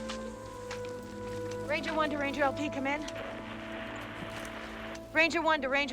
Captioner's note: radio Static